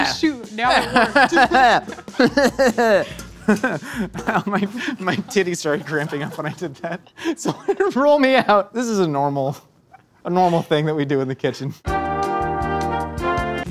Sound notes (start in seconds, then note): 0.0 garlic bangs violently; 3.1 laughs; 7.0 laughs; 11.9 jazzy elevator music